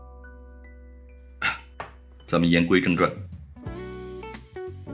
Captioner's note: ahem